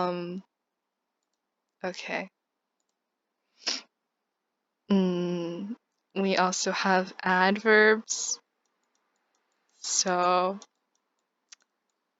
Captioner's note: sniff